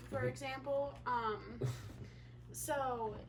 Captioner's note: laughs